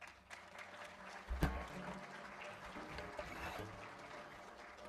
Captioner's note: applause